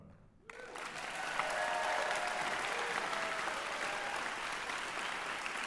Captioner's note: applause